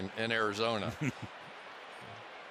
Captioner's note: laughs